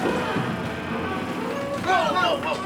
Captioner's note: mechanical whirring and creaking